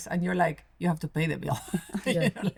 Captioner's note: laughs